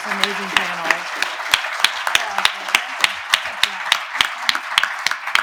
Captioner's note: attendees applauding